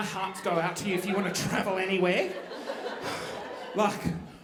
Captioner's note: gasping